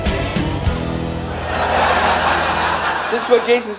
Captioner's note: audience Laughter